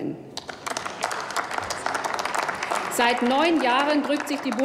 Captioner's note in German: Applaus